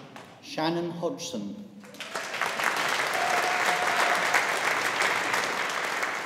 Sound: audience applauding

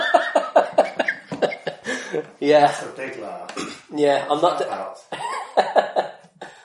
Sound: laughs

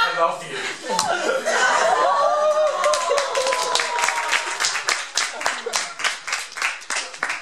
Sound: applause

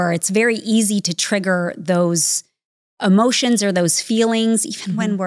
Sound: chuckling

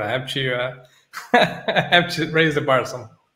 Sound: laughs

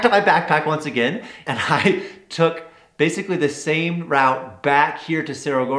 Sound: laughs

